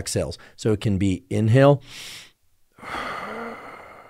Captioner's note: inhales and exhales